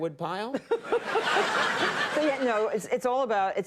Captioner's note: laughs